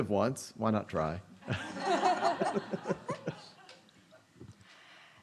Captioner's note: audience laughing